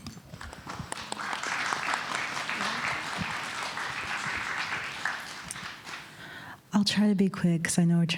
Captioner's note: applause